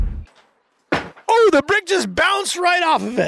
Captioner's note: brick hitting the ground